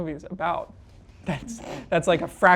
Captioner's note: actresses chuckle